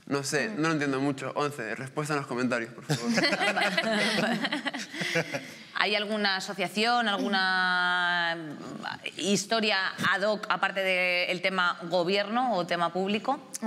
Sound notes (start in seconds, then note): 2.8 they laugh